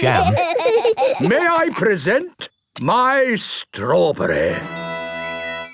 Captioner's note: laughing